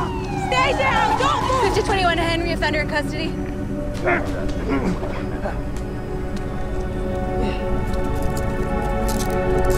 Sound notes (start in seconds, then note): 0.0 shouts; 4.6 groans and grunts